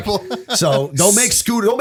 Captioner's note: laughter